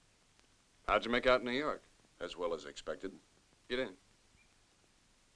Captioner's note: none